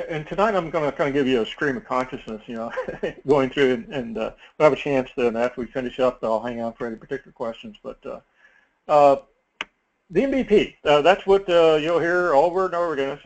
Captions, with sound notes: And tonight I'm gonna kinda give you a stream of consciousness, [LAUGH] going through. And we'll have a chance then after we finish up and I'll hang on for any particular questions. But the MBP, that's what you'll hear over and over again.